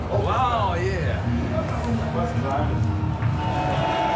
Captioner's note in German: Grölende Menschenmenge im Hintergrund